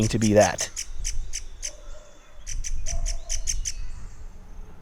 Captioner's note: bird chirping